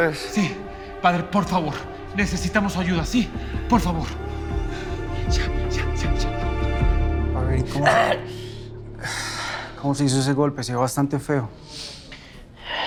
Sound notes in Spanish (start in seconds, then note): 7.8 Quejido